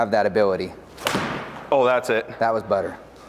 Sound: ball thuds

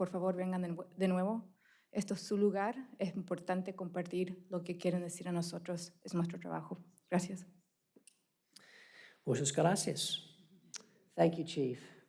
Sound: speaking spanish

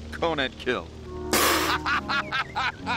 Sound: spit take

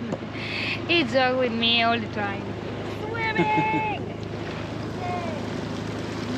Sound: swimming

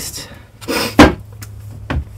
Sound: sniff

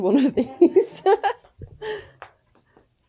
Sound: laughs

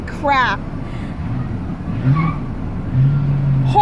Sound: tires screeching

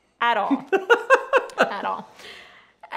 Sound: laughing

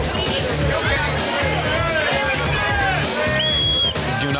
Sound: crowd shouting and chattering; whistle blowing

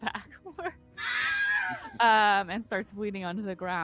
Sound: Wilhelm scream

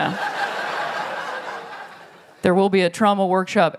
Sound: laughter

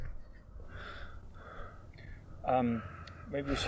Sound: heavily breathing

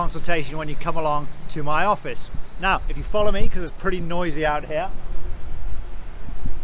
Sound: traffic noise

